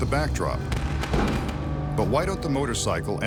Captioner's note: fireworks exploding